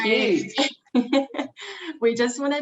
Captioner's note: chuckling